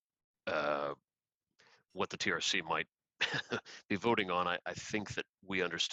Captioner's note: laughter